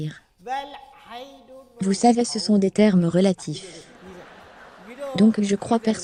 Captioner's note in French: rire